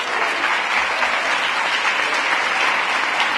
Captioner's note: applause